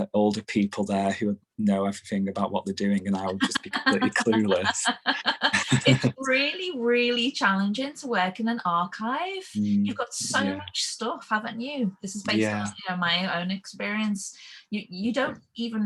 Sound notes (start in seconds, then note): 2.8 laughing